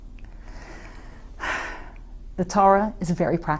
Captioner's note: sighs